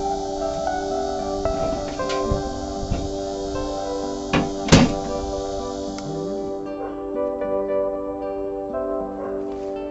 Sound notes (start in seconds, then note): 4.2 ambient music; 4.2 metal door closing; 5.7 ambient music